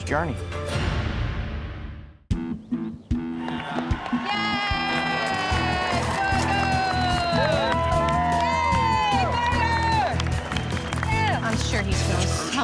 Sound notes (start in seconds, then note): 7.7 cheering